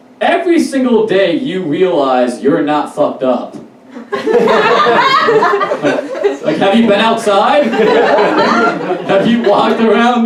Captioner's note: audience Laughs